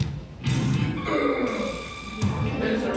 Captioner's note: grunt